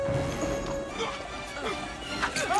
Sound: grunting

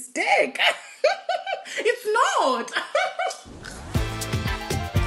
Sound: laughs; upbeat music

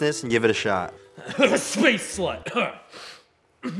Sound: coughing

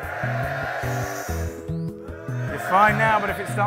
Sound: cheering

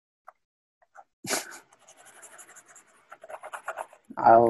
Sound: laughs

